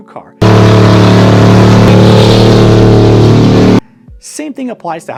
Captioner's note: car engine roaring loudly